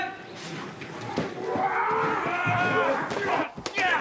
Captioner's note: all shouting